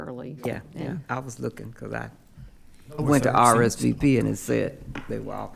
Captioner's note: speaking quietly